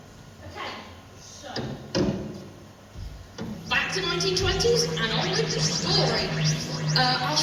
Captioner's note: TARDIS sound effects